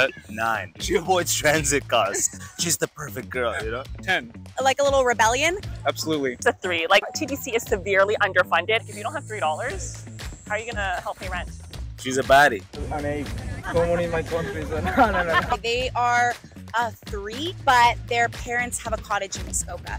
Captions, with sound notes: "9. She avoids transit costs. She's the perfect girl. You know?" "10." Like a little rebellion? "Absolutely." "That's a 3. Like TTC is severely underfunded. If you don't have $3, how are you going to help pay rent?" "She's a baddie." " An 8. Like someone in my country. No no no." (Laughs). They are a 3, but their parents have a cottage in Muskoka.